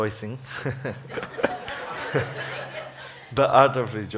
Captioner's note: laughs